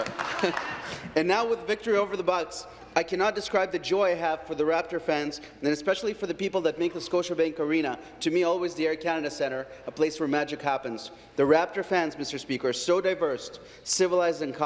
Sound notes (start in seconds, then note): 0.0 some Applause